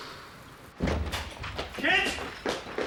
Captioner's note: door opens